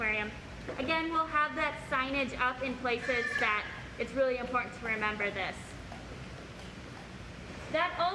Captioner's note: bird squawk